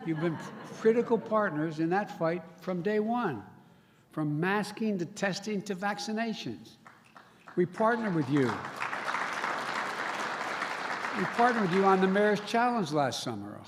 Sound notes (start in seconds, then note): 6.8 applause